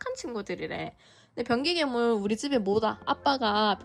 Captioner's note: on the verge of tears